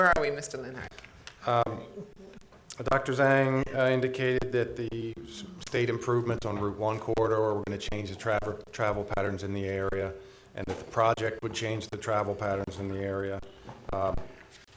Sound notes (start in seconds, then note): none